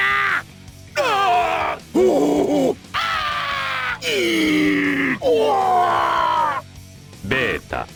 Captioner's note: painful screams